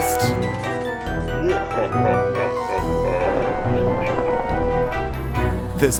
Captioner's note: evil laughter